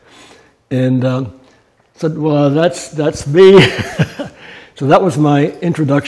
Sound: chuckles

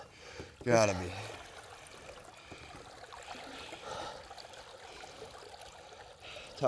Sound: water running

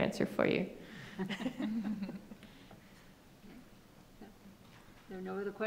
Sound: women chuckling

